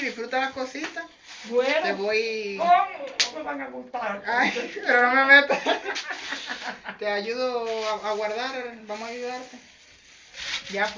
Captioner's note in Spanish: Jajajaja